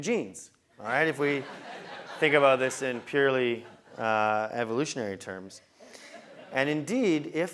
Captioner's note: laugh